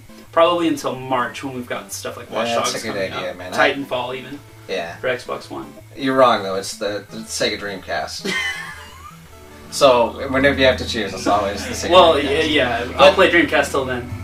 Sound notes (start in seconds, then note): 8.2 laughs